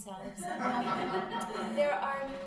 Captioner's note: crowd laughing